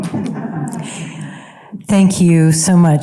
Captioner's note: audience member chuckles